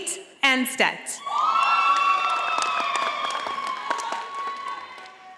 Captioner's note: audience applauding